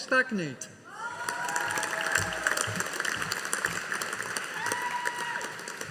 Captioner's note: audience applauding